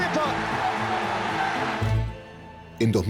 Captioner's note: crowd cheering